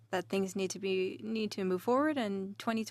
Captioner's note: speaking in French